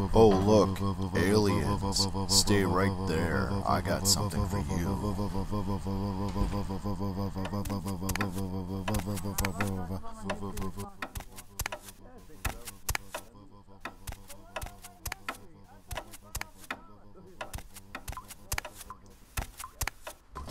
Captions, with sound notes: Oh look! Aliens Stay right there! I got something for you! (door close) (footsteps)